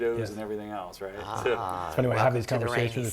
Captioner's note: murmuring in agreement